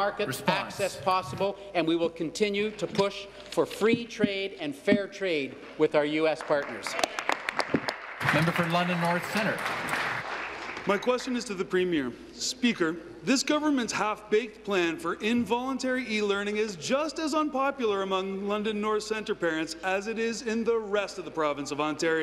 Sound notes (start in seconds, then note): 10.1 applause